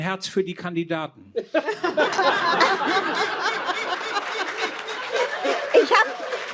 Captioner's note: laughter